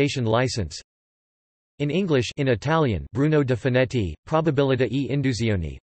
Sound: in Italian

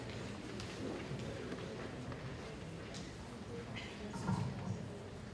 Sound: scattered applause

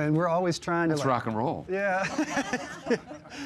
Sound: laughing

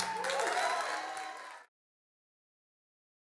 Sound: audience cheers

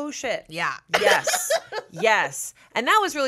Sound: laughs

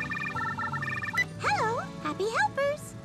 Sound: phone ringing

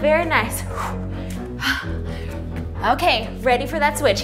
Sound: breathes heavily

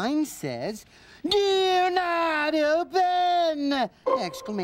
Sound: shouting

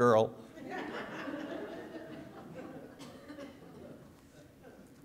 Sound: audience laughing

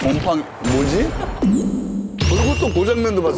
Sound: startled laughter

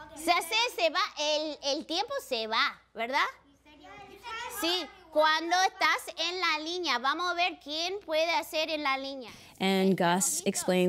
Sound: speaking spanish

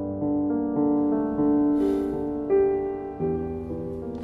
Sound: the Man sighs

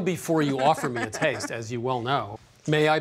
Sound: laughter

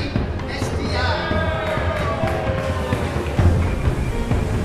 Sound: applause

